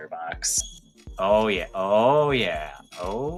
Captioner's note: bell ringing